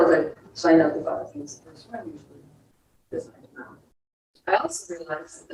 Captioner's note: speaks distorted